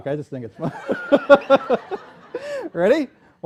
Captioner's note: laughter